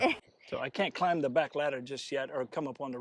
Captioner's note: laughs